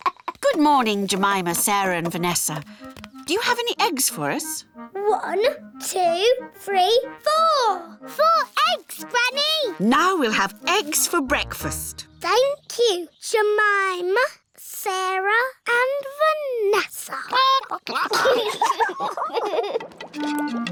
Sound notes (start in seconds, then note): 17.3 children giggle; 17.4 chickens chatter